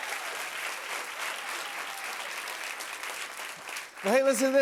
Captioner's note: cheers and applause